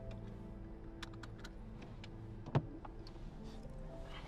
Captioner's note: sound of safety belt unbuckling